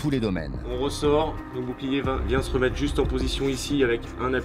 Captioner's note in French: audio parlé en français